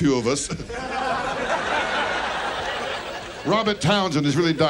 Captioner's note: audience laughs